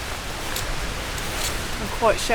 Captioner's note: rain